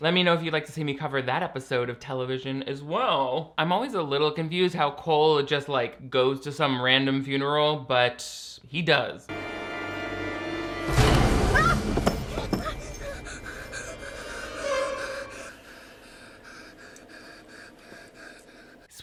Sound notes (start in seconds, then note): 9.5 eerie music; 11.7 Cole yells; 12.7 Cole panting